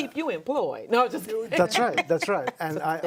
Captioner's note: laughs